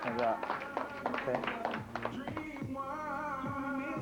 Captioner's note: applause